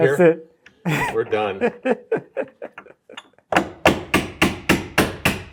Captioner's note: laughing